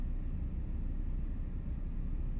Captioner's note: none